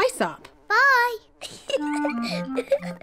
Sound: giggles

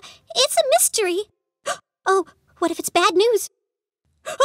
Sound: gasps

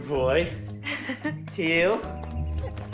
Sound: chuckles

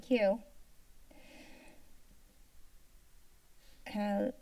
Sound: silence

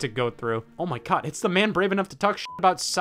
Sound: beep

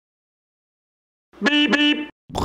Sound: beep beep

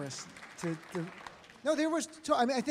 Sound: audience applauds

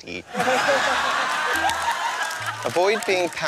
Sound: laughter

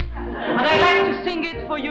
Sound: audience laughing

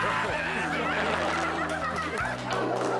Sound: Flesh screaming

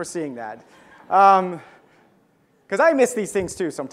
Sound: audience laughs

